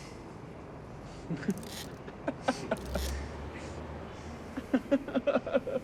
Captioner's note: photographer laughing